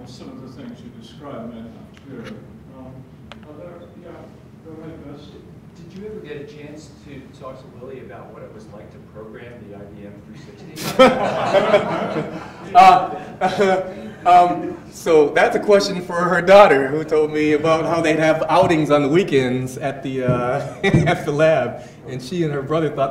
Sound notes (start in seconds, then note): 10.8 audience laughs